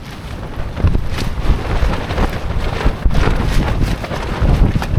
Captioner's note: wind blowing